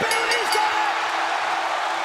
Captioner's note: bell ringing; crowd cheering